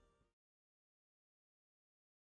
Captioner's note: moment of Silence